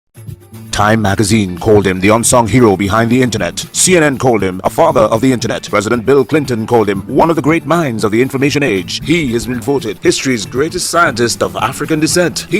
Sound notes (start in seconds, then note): 0.7 radio Announcer